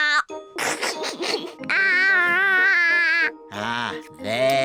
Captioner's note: giggles